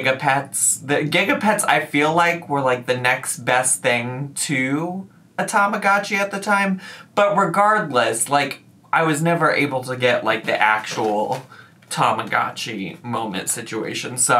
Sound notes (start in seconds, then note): none